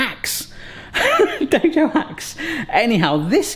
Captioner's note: laughs